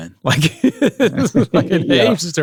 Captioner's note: laughs